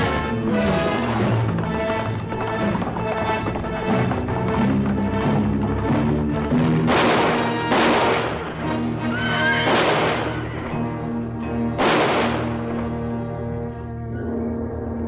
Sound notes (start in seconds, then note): 1.8 dramatic music; 1.8 hooves clattering; 7.2 gun fire banging; 9.0 horse neighing; 11.7 gun fire banging; 14.8 pensive music